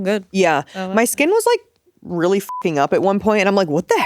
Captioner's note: beep